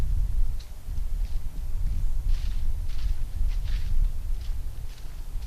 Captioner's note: footsteps